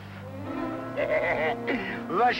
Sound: Malamos laughing

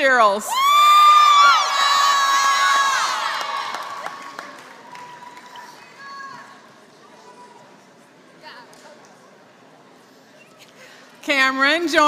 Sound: applause

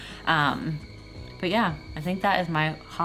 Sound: tea kettle whistling

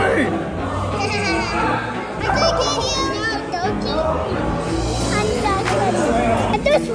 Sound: chuckles

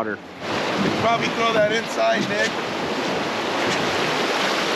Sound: water rushing

